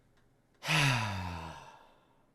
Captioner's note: sighs